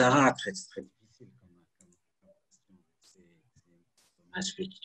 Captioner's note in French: coupure audio